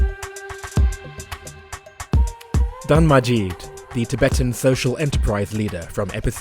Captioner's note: voiceover